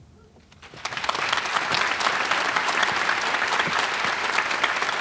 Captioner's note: audience applauding